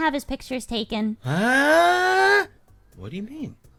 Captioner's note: cry